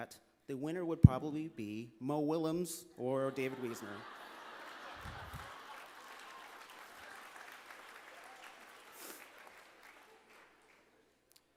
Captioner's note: laughter